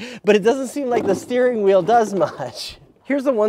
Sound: laughs

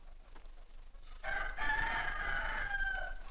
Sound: rooster Crows

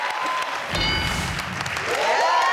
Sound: audience clapping; bell dings; audience cheering

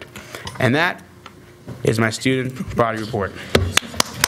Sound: applause

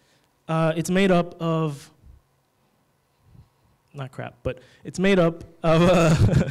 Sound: laughs

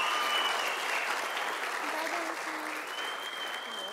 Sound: sound of applause from audience; woman giving award quietly

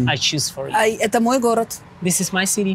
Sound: speaking in a foreign language

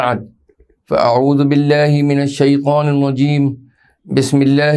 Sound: arabic

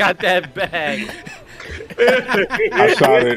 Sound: laughing continues

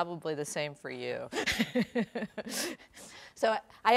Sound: laughing

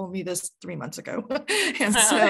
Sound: laughing

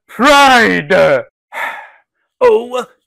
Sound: sigh!

